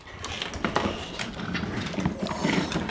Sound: chomping

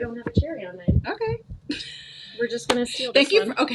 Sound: chuckles

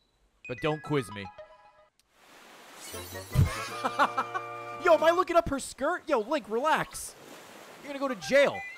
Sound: laughs

